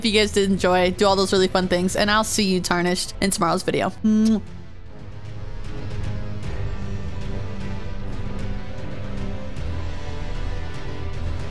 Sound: kiss

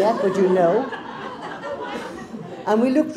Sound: crowd laughs

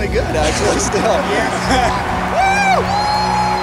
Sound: both chattering

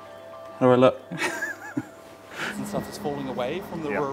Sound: chuckling

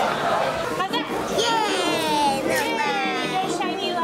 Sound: shouting

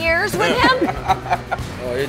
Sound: laughs

